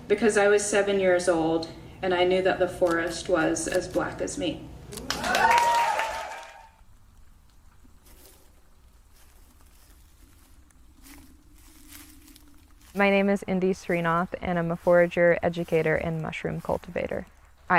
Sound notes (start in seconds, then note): 5.0 audience applauds; 11.2 leaves rustling